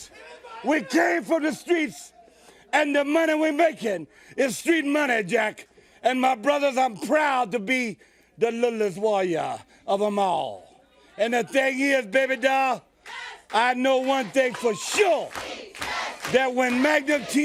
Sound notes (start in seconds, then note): 13.7 crowd cheering